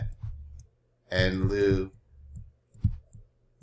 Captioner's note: speaking greek